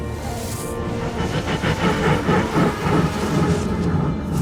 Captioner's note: sounds of time vortex appearing and tardis falling